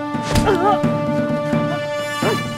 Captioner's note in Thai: เสียงเจ็บปวด